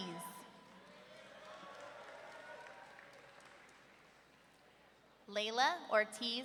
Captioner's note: audience cheering